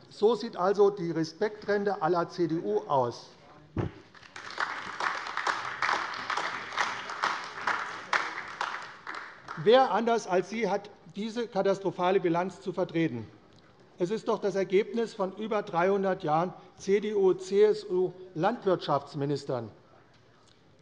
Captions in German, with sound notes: So sieht also die „Respektrente“ à la CDU aus. [Beifall AfD] Wer - außer Ihnen - hat diese katastrophale Bilanz zu vertreten? Das ist doch das Ergebnis von über 300 Jahren Amtszeit von CDU- oder CSU-Landwirtschaftsministern.